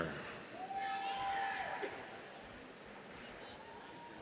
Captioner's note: audience cheers